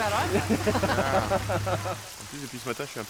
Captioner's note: laughter; speaking French